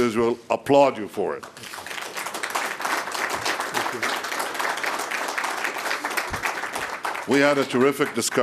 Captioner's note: applause